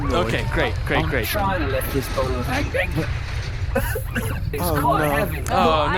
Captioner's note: cough cough